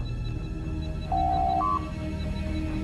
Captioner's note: door Chime